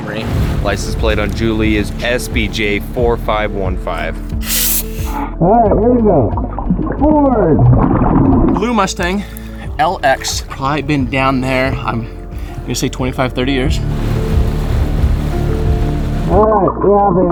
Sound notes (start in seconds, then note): 4.5 oxygen tank hissing; 7.2 oxygen bubbling in water; 14.1 water splashing; 15.5 upbeat instrumental music continues